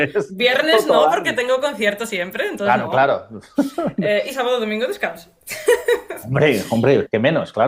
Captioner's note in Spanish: risas